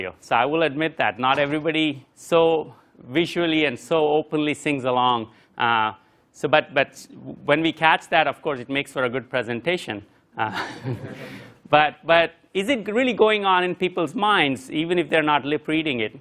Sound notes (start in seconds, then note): 10.5 laugh